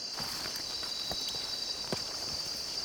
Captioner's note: none